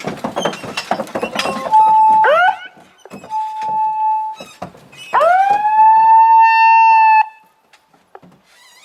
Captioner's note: siren